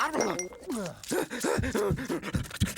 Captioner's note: gasping excitedly; heart beating faster